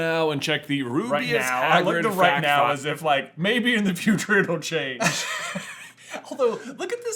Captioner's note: laughter